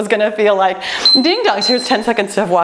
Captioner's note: timer beeps